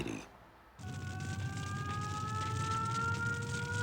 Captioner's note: sound of flames crackling; sirens